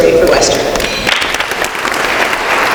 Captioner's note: applause